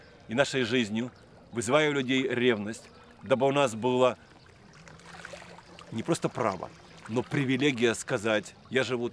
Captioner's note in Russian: стук воды